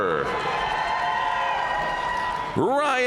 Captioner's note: audience cheering and applauding